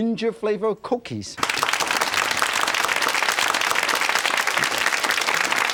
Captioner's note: audience clapping